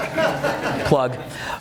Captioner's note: audience laughs